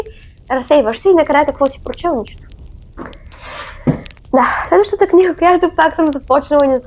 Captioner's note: sigh